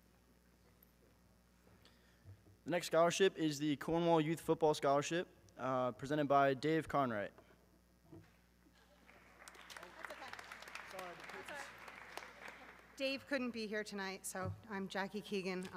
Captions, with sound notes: - The next scholarship is the Cornwall Youth Football scholarship presented by Dave Conwright. (audience clapping) - That's okay. - Sorry! - That's alright. Dave, couldn't be here tonight, so I'm Jackie Keegan